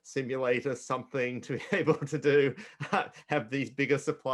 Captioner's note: laughing